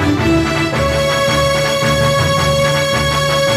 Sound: none

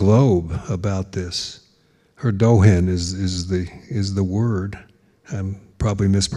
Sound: speaking in foreign language

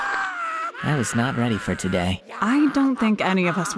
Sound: Cell continues to cry out in excruciating pain

